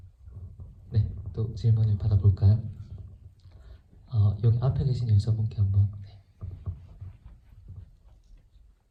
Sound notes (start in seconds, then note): 1.5 speaks in foreign language